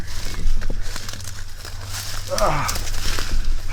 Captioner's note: rustling leaves